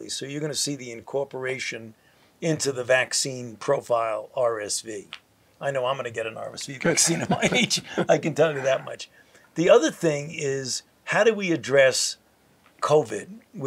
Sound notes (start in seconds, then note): 6.8 laughs